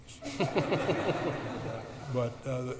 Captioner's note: audience laughs